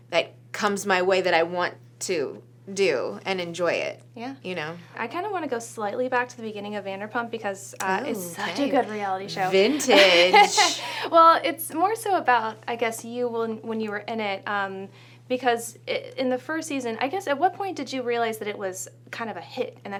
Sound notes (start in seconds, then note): 9.4 laughs